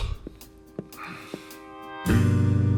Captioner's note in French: il soupire